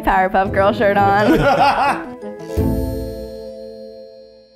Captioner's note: men laughing